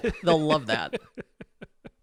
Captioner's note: laughing